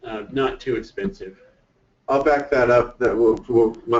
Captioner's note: voiceover